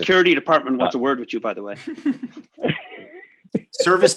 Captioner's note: laughs